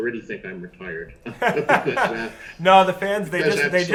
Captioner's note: Chris laughs